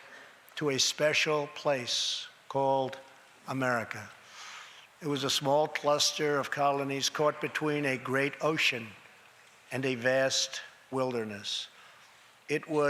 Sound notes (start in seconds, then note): none